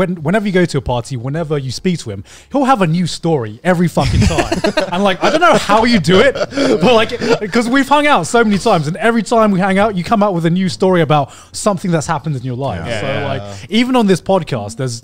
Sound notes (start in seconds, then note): 4.0 all laughing